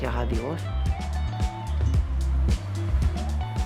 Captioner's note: traffic